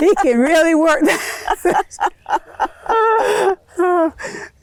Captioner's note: laughter